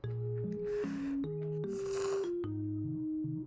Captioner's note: slurp